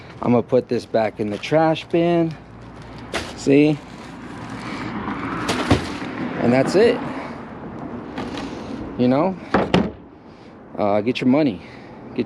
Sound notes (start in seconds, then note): 5.4 trash bag thudding; 9.6 bin lid thudding